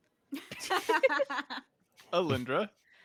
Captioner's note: group laughs